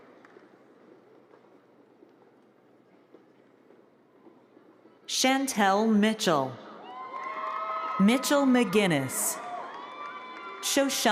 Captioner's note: applause